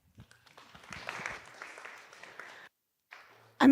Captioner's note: applause